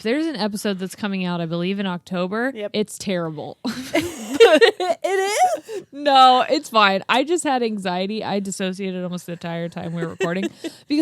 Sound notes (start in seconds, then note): 3.7 laugh; 9.8 laughs